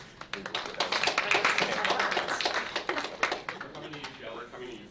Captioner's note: applause